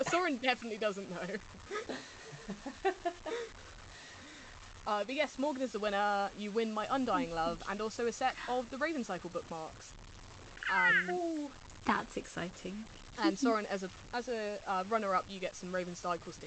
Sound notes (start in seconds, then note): 8.3 laughs; 10.5 screeches